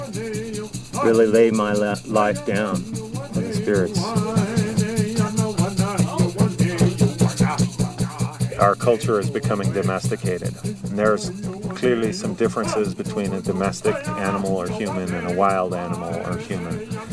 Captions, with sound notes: to really lay my life down on the spirits. [Chanting] Our culture is becoming domesticated. There are clearly some differences between a domestic animal or human and a wild animal or human.